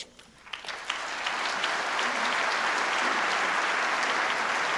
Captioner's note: applause